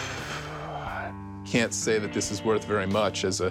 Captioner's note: exhale